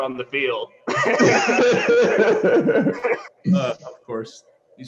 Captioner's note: laughter